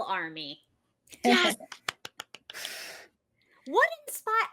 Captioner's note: claps